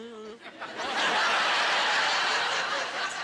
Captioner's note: laughing